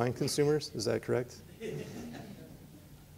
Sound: laughter

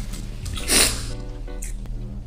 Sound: sniff

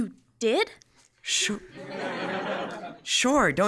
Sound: laughter

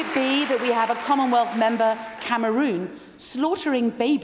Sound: applause

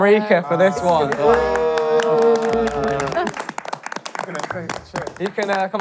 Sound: contestants cheering

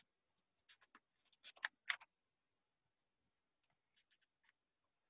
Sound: pages flipping

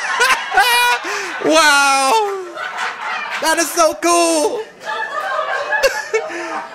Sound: laughs; audience laughing

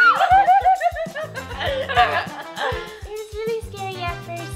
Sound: laughs

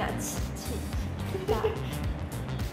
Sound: laughs at her

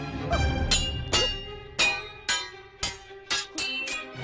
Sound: clanking

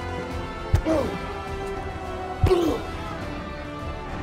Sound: men grunting

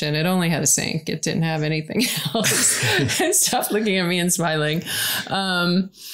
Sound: laugh

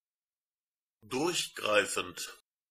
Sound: fast Pronunciation

